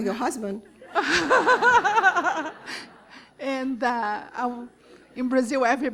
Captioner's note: laughter